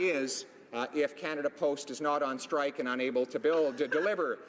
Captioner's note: laughter